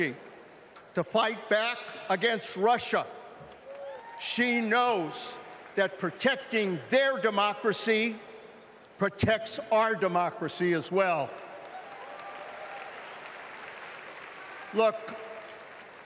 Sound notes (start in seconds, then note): 0.9 cheering